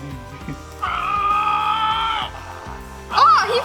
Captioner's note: toy roars and farts